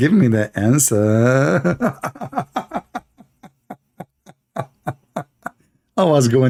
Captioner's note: Ketawa